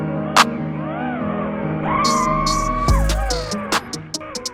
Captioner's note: drone flying